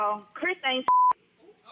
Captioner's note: beep